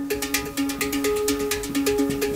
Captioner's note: spherical sounds